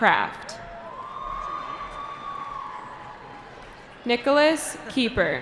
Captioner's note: cheering